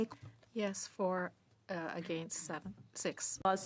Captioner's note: speaking French